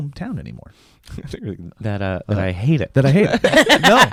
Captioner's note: laughs